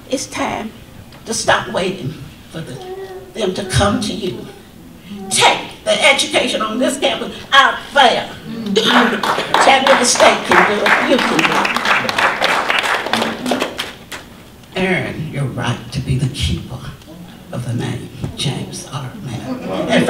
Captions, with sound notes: It's time to stop waiting for them to come to you. Take the education on this campus out there! (audience applause) Chattanooga State can do it, you can do it. Earn your right to be the keeper of the name, James R. Mapp.